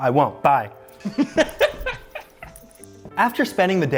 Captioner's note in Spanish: Felix se ríe